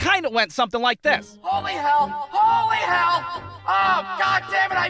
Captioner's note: echoed voice